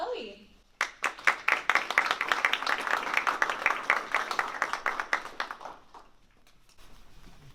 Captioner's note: applause